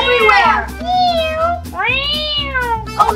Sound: cats meowing

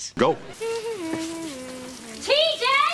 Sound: humming

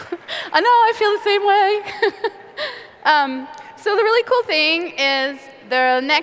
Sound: laughter

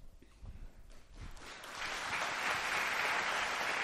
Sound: applause

